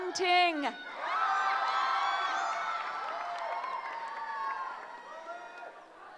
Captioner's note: cheering